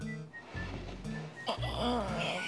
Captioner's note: little grunts